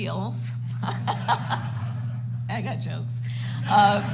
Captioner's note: laughs